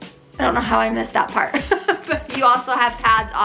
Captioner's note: laughs